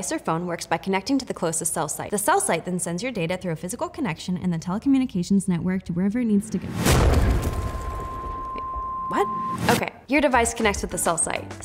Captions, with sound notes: or phone works by connecting to the closest cell site. The cell site then sends your data through a physical connection in the telecommunications network to wherever it needs to go. (explosion booms and crackles) Wait, what? Okay, your device connects with the cell site.